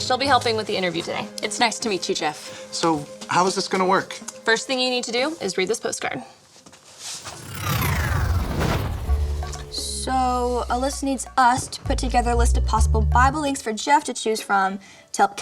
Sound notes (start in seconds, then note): 7.1 electronic swoosh